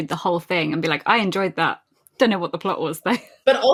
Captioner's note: laughs